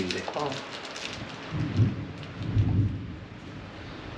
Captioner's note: real thunder